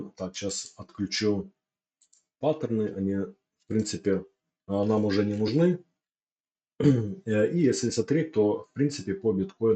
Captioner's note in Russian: откашливается